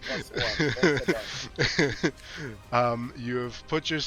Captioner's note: DM Laughing